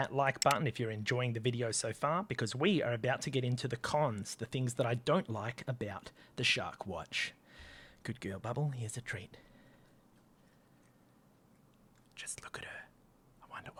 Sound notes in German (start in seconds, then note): 11.5 flüstert